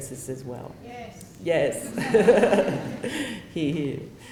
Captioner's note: laughter